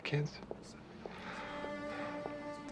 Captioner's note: sighs